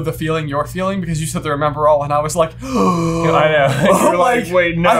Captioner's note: gaaaaaaaaaasp